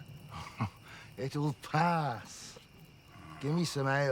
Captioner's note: chuckles